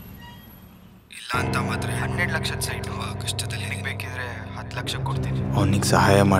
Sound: Satish’s voice echoing

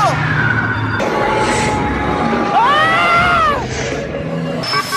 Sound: rawring

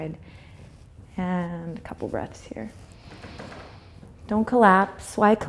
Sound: inhales

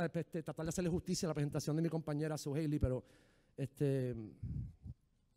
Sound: speaking in foreign language

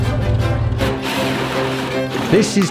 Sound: drill whirring

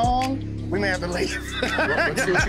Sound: laughing

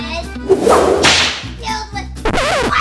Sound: whip snaps

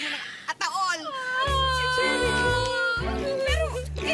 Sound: crying

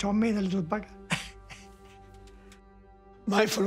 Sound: chuckles

